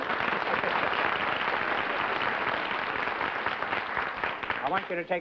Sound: applause

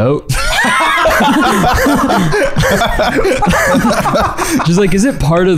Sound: absolutely losing it

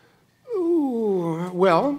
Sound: loud uncertain exhalation

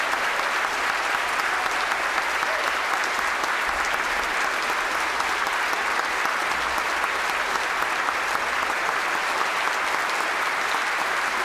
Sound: some Applause

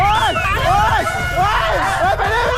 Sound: screaming from coldness

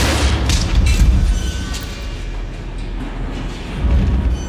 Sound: elevator creaks

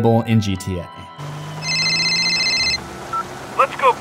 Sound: phone rings

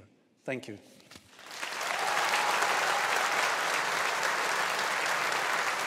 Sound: audience applauding

